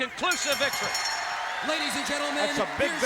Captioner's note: bell ringing